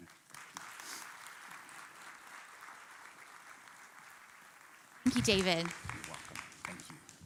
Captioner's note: applauding